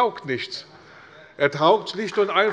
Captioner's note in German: Beifall bei der CDU und dem BÜNDNIS 90/DIE GRÜNEN